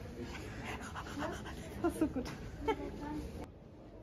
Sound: laughing

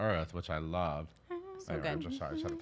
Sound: humming

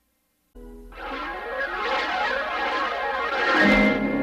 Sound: swirling sounds continuing

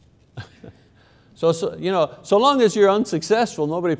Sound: laughs

